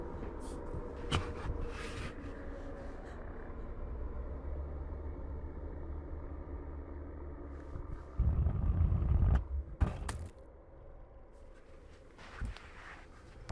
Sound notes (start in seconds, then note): 0.4 soft eerie music; 7.8 light sphere clattering